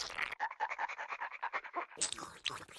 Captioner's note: panting; Tweety salivating